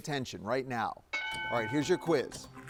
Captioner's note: bell dings; paper rustles